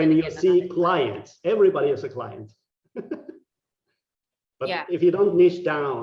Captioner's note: laughing